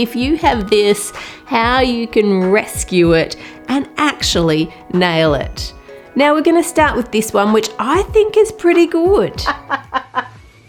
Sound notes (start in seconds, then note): 9.4 laughter